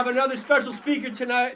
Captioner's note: applause